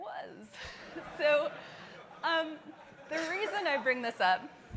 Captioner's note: audience laughing